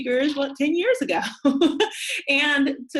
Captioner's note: laughs